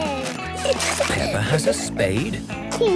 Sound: giggling

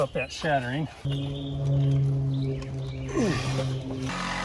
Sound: birds chirping; hand saw buzzing

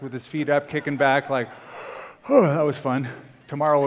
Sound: yawns

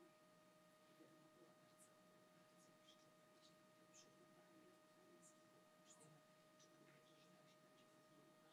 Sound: foreign language

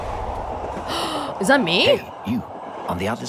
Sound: gasps

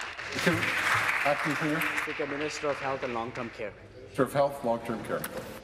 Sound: applause

